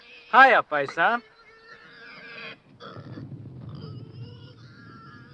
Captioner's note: pig snorting